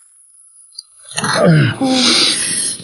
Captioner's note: John groans